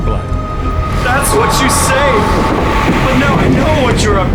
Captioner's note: wind roars